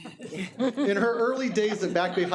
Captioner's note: audience laughing